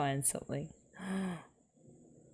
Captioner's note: gasps